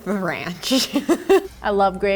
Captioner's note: laughs